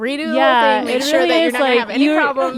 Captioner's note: laughing